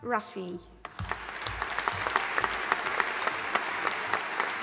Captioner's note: audience applauding